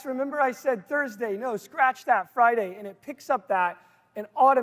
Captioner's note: none